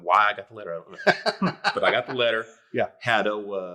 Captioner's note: laughing